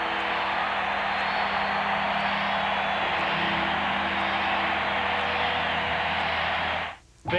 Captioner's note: cheering